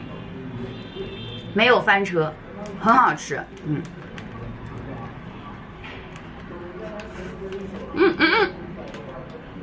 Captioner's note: eating